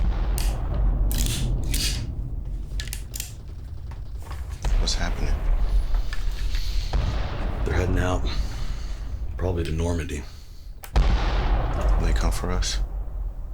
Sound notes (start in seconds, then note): 0.2 distant bombs rumbling; 2.6 faint gunfire popping; 10.9 bomb thundering